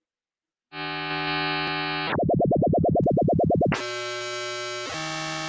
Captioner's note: random electronic sound effects